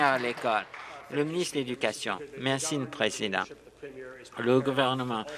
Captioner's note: applause